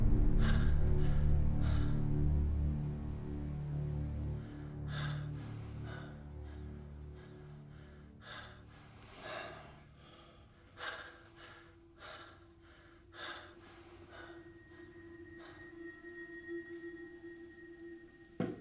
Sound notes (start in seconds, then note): 1.1 breathing hard